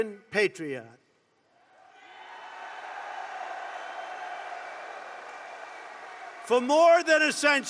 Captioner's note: applause